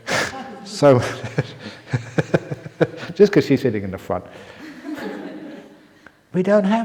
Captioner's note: chuckle; laughs